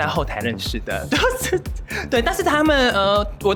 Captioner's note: laughing